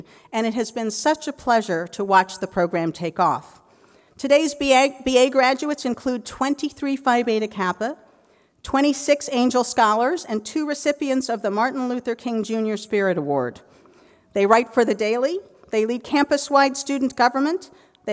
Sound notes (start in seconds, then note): none